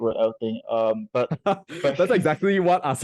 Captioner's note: laughing